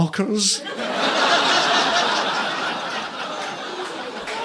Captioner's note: audience laughing